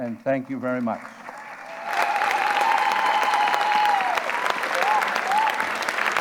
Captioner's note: audience cheers and applause